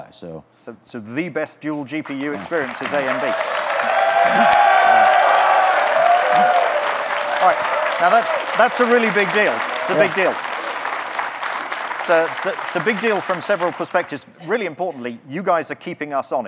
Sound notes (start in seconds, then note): 4.9 audience clapping, cheering; 11.4 audience cheering